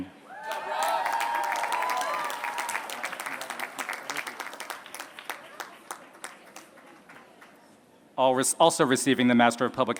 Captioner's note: applause